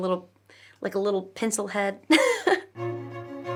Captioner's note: chuckles; bright violin music